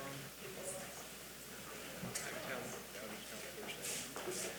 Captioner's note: attendees chattering